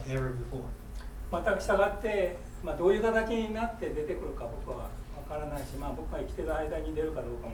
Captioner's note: speaking in foreign language